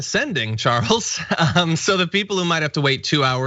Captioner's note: laugh